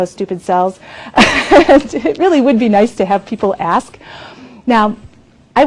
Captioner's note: laughs